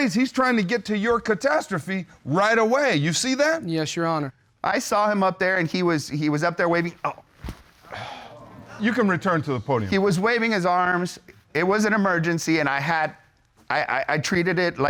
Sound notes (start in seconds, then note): 7.8 groans and sighs; 13.4 stutters